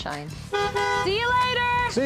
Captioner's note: car horn honking